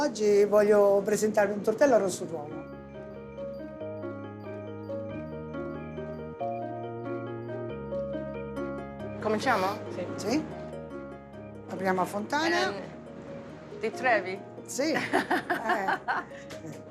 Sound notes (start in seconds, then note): 9.1 speaking Italian; 15.0 laughs